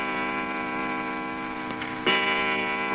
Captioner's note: clock chiming